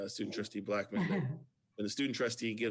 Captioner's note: laughs